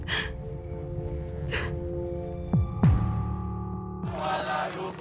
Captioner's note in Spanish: sollozos